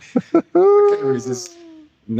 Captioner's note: laughs